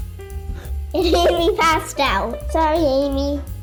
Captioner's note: laughs